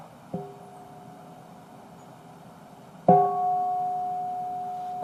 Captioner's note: bell ringing